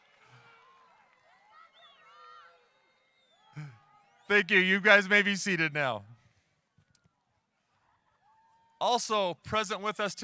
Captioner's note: applause